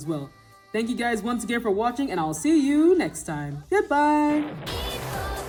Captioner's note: boom